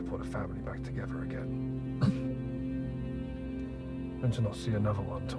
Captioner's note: coughing